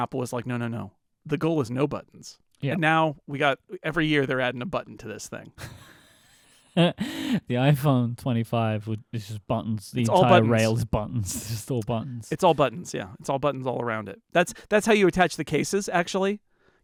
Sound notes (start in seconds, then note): 5.6 laughing